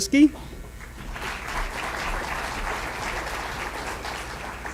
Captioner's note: applause